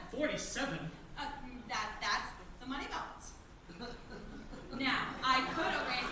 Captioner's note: stammers